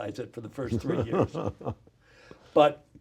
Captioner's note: laughs